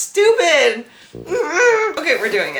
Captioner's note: grumbling